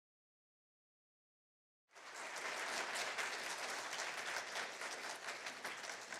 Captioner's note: applause